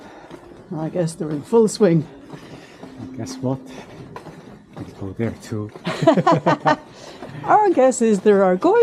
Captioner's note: laughter